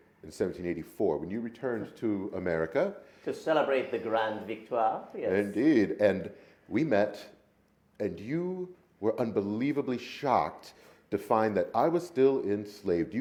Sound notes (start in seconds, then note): 4.2 speaking in a foreign language